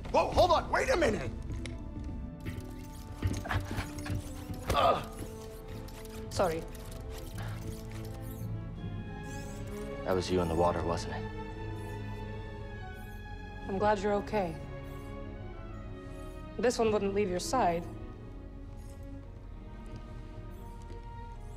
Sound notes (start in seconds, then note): 4.2 groan